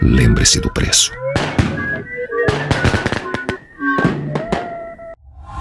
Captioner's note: fireworks popping